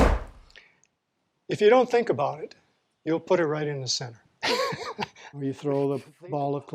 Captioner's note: laughs